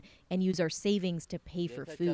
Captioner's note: speaking Foreign Language